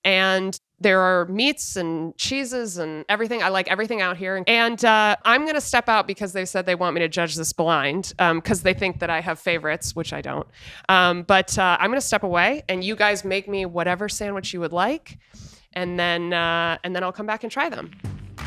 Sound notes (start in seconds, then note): none